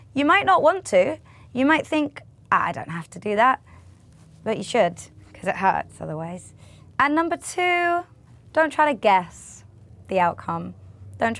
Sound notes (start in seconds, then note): none